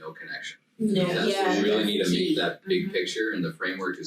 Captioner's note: group chattering